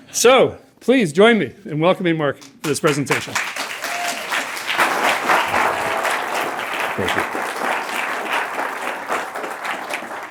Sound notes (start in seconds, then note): 2.4 applause